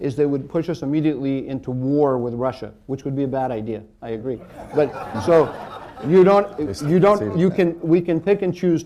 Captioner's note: laughter